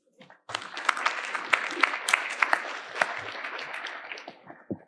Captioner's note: audience applauding